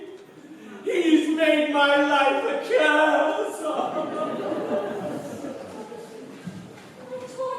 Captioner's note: weeping, laughter